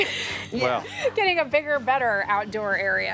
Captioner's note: laughs